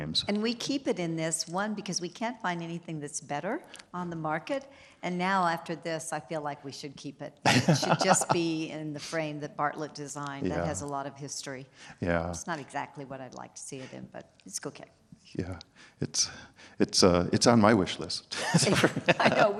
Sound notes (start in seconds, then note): 7.4 laughs; 18.3 both laughing